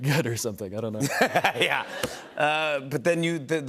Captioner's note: laughter